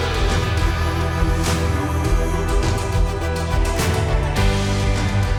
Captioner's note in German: Beifall